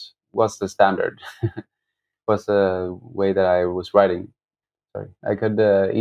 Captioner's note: laughter